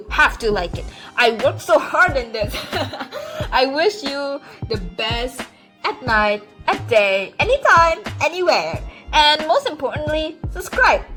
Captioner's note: laughes awkwardly